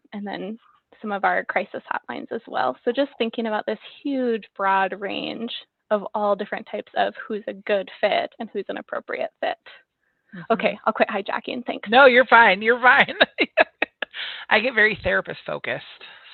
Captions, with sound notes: and then some of our crisis hotlines as well. So just thinking about this huge broad range of all different types of who's a good fit and who's an appropriate fit. Okay. I'll quit hijacking things. - No, you're fine. You're right. (laughs) I get very therapist-focused.